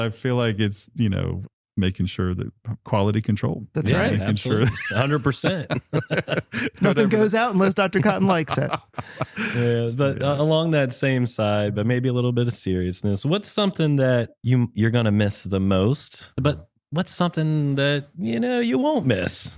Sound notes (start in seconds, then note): 4.4 laughter